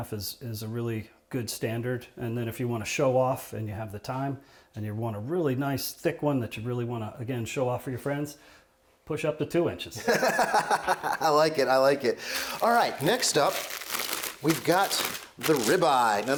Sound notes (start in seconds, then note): 10.0 laughing